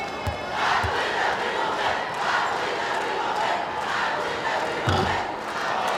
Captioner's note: crowd